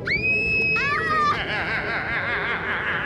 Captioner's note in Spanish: grita; gritando; risa malvada